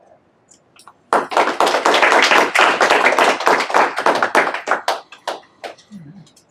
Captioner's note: applause